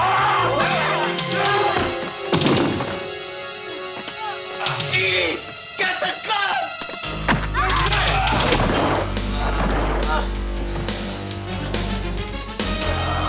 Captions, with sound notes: (Rusty growling) (men grunting) - Edy, get the gun! (Edy screaming) - Get away!